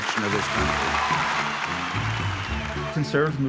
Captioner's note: audience applauding